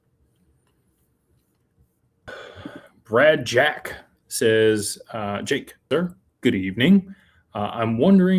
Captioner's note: sighs